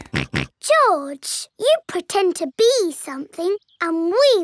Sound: snorts

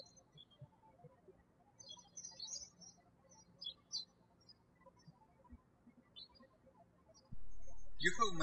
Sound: birds chirping

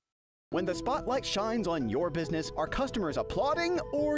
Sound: voiceover

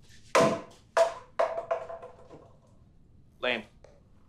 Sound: bottle falls

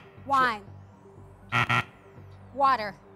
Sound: buzzer

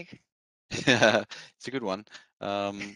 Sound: chuckles

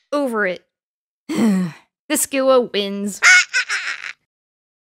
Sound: sigh

